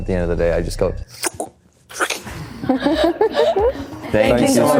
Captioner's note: Maya and Natalia snickering